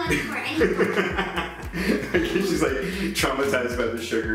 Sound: laughing

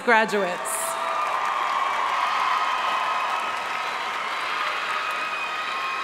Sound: audience cheering and applauding

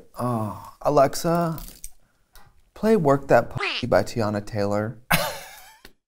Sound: sighs

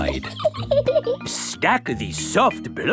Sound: laughs

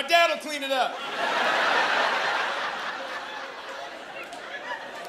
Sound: laughter

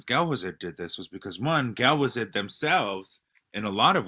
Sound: non-english speech

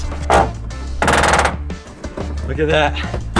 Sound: metal groaning

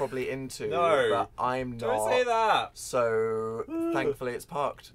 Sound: disgusted noise

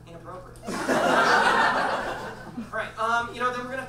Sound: audience laughs

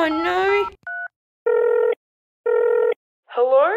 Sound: dialing

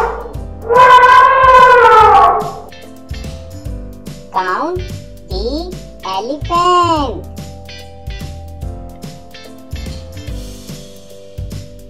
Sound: elephant Sound

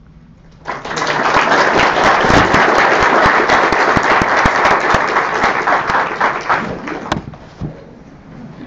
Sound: audience clapping

